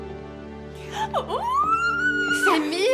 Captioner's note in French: cris d'excitation